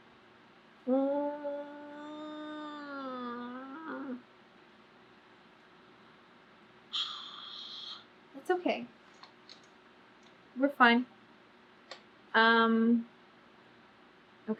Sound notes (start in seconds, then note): 0.9 groans; 6.9 exhales loudly